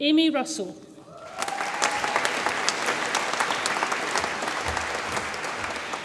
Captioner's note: audience applauds and cheers